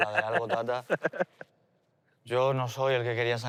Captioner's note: laughs